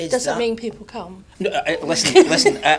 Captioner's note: audience laughs